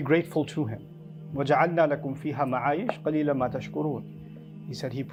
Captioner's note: Arabic